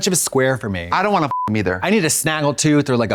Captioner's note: beep